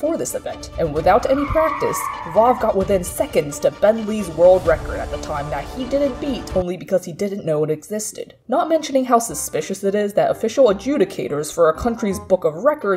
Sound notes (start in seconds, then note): 1.1 car tires screeching; 6.3 music stops abruptly